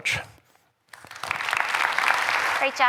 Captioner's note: applause